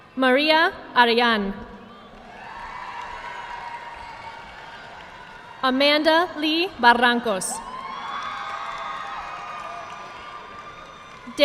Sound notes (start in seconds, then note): 2.1 audience clapping; 7.6 audience clapping